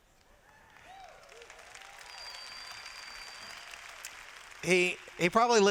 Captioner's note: applause